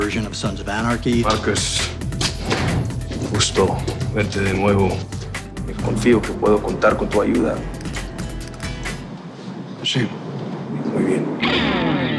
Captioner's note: speaking spanish